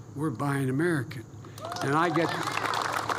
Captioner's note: applause